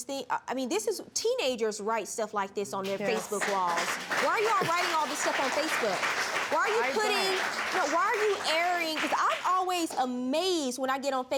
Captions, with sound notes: I mean, this is... Teenagers write stuff like this on their Facebook walls. Why are you all writing all this stuff on Facebook? (APPLAUSE) Why are you putting... No, why are you airing... I don't. 'Cause I'm always amazed when I get on Facebook